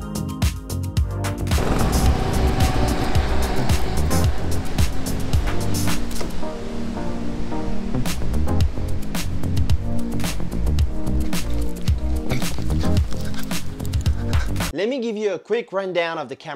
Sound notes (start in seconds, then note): 1.5 engine continues revving; 7.9 upbeat music continues